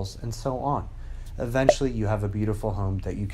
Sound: popping

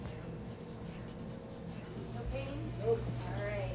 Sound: pen scribbling

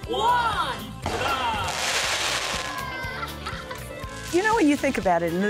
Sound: fireworks crackling, cheering

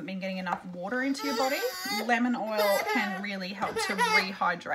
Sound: cries

